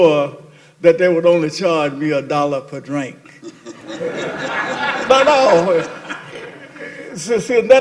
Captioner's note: laughter